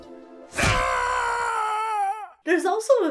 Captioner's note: Eggman shouts